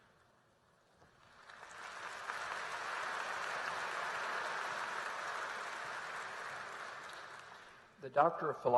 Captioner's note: applause